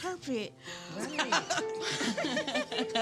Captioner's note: all laughing